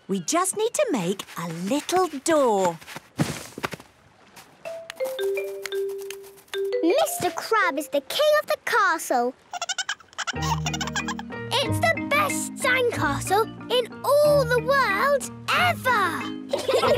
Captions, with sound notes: - We just need to make a little door! - Mr. Crab is the king of the castle! - (giggling) - It's the best sandcastle in all the world... ever!